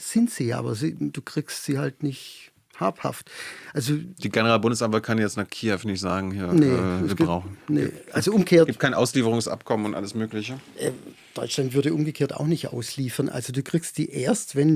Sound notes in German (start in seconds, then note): none